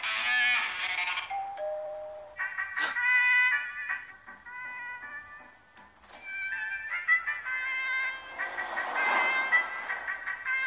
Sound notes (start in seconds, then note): 1.2 doorbell; 2.8 gasps